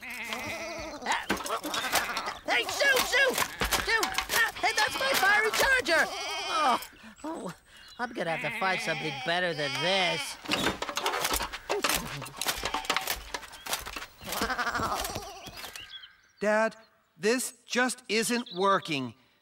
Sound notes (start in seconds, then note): 0.0 bleating; 5.9 sighs; 14.2 bleating